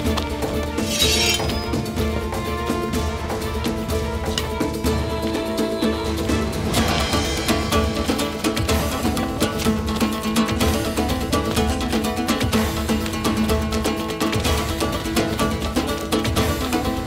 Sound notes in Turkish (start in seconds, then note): 0.8 Kılıç çekme sesi; 2.4 Müzik - Gerilim